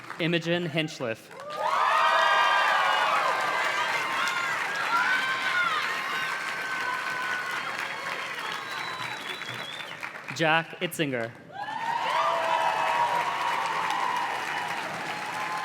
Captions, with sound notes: Imogen Hinchliff. (audience cheers and claps) Jack Itzinger. (audience cheers and claps)